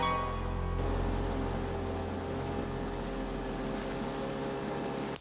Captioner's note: motor whirring